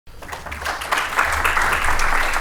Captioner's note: applause